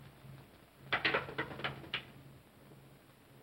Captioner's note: cane clatters